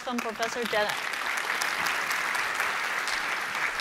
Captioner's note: applause